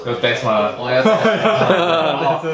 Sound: laugh

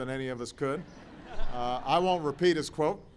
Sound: laughter

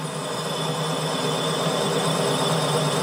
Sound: dull drilling noise

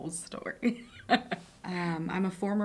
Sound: laughs

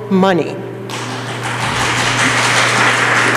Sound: applause

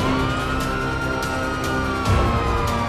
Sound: sirens

